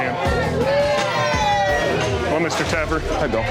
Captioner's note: group cheering